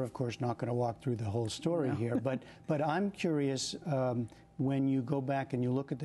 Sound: laughter

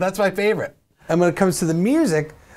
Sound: voice-over

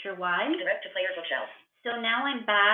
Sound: VoiceOver voice

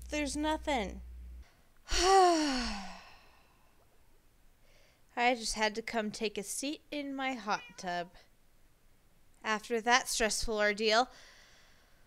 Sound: long sigh

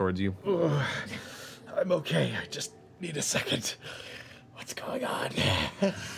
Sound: whispering

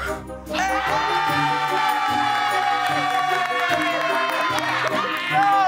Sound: cheering and clapping

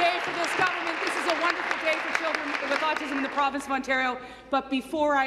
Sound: applause

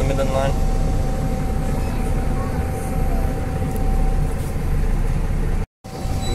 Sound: bus Noises

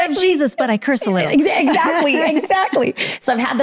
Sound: laughing

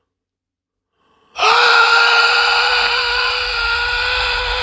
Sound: screaming

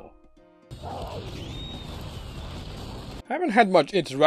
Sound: destruction sounds

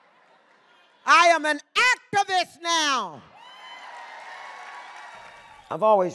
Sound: audience cheers

